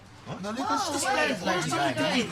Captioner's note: everyone complaining